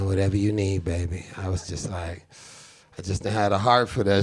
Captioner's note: inhales